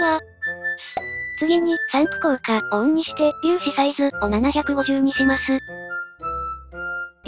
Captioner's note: Spraying Effect